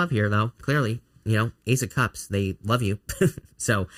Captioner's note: chuckling